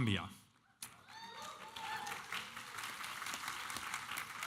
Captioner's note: applause